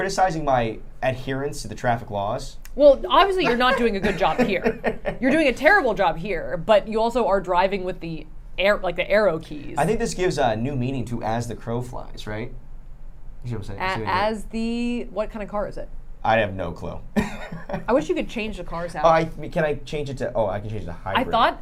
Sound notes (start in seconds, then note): 17.2 laughs